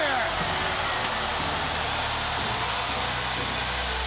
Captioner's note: sparks hiss